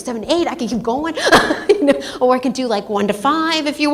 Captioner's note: laughs